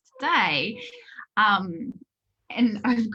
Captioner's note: Minna whimpering